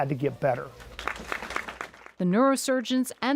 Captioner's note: crowd clapping